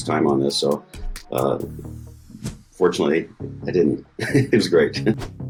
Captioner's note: chuckling